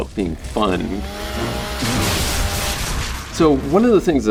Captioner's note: chainsaw cutting